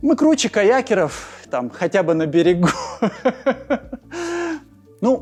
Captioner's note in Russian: хахахахаха